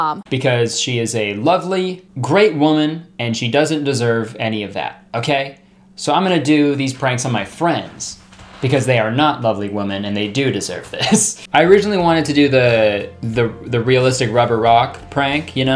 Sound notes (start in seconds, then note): 11.1 laughing